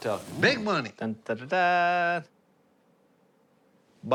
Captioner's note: imitates fanfare